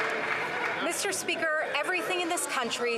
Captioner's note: some Applause